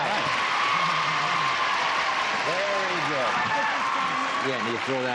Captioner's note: applause